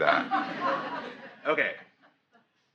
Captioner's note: audience laughs